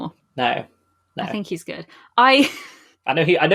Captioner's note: laughs